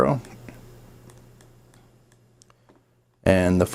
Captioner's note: mouse clicking